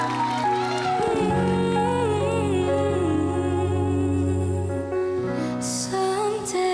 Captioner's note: audience cheering; humming; singing